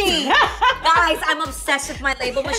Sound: laughing

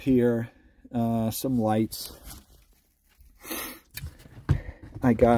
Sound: sniffs

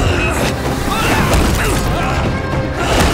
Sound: grunting

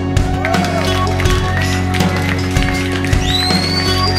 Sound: audience clapping

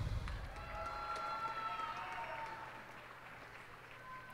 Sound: cheers and applause

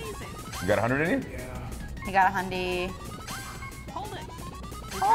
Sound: none

